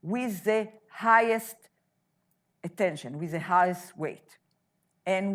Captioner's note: none